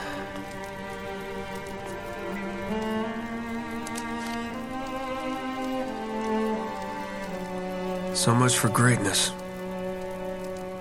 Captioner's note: in-game audio